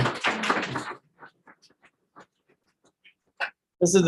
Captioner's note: audience clapping